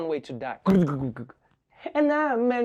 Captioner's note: mutters